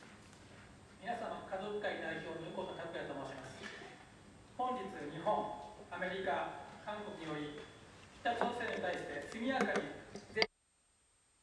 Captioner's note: non-english speech